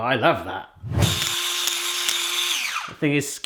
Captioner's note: machine whirring